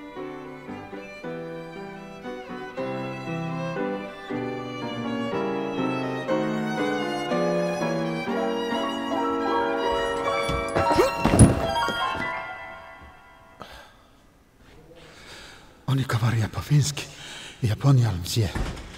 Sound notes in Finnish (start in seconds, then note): 11.4 läsähtää lujaa; 13.6 huokaa hiljaa